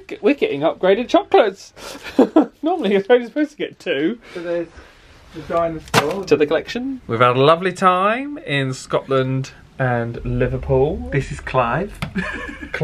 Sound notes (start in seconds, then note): 5.8 chocolates clatter; 12.1 giggles